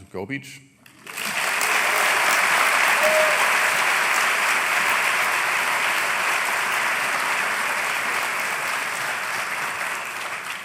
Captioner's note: applause